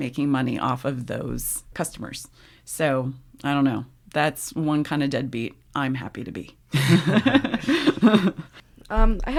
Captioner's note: laughs